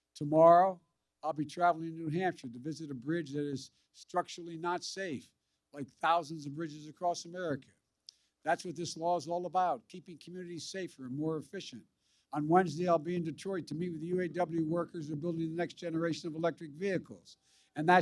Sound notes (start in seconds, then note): none